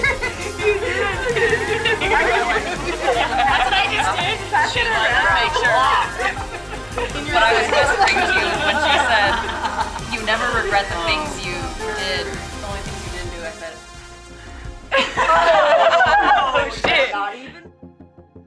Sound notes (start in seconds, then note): 2.9 laughing continues